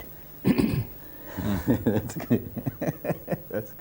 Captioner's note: laughs